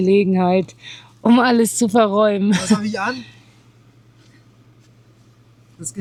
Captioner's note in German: gelächter